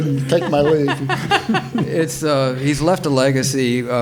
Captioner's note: panelists laughing